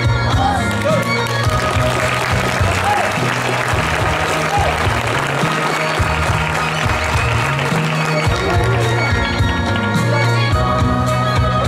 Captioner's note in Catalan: Aplaudiments